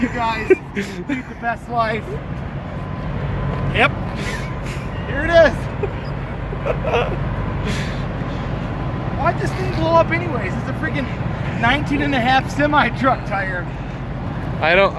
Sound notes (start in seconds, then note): 6.1 laughs